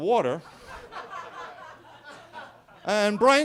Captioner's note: attendees laughing